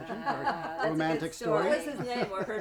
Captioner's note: laughing